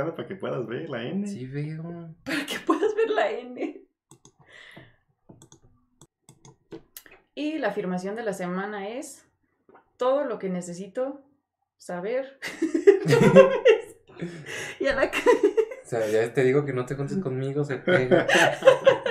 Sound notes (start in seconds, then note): 3.2 cracks up; 12.4 cracks up; 17.8 laughter